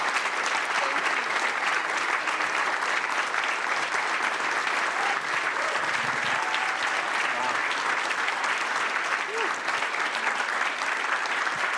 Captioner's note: applause